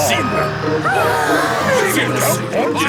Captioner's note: children gasp